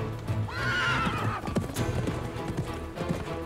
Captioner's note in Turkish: At kişneme sesi